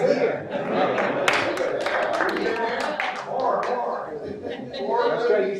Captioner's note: applause